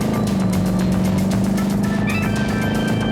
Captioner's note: speedboat engine roaring